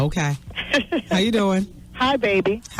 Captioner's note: laughs